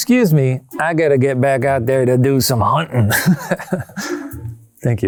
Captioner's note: laughs